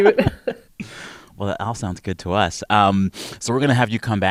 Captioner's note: laughter